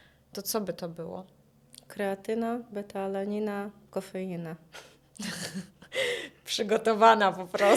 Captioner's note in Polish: śmiech